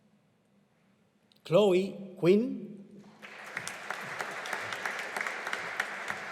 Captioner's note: audience applauding